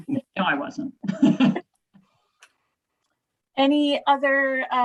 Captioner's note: laughing